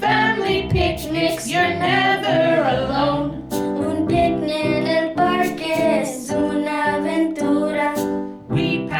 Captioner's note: continues in Spanish